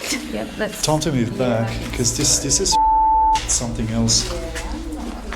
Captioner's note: beeping